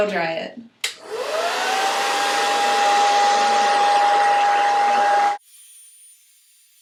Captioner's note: blow dryer sound